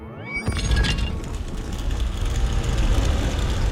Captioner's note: doors rumbling